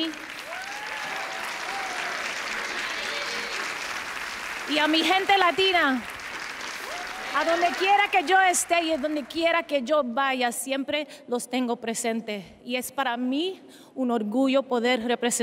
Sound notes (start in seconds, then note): 0.0 cheers and applause; 3.9 speaking Spanish